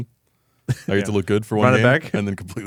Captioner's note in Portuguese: risos